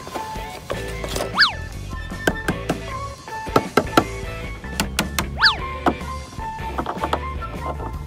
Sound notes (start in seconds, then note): 2.3 hammer bangs